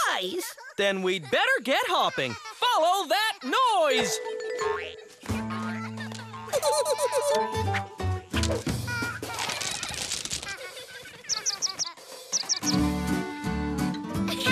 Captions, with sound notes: THAT MEANS NO SURPRISE! THEN WE'D BETTER GET HOPPING! FOLLOW THAT NOISE! (GIGGLES) (ACORNS CLATTER) (CHIRPING)